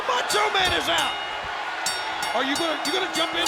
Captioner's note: bell rings